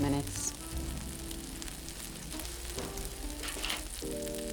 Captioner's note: pan sizzling continues; bright upbeat music